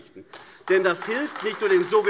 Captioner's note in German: Beifall AfD